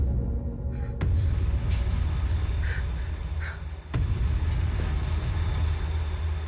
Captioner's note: ominous music; Ellie gasping